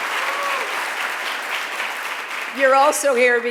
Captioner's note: cheering and Applause